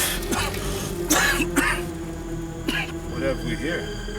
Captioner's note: coughing